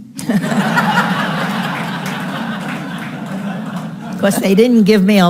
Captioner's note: audience laughing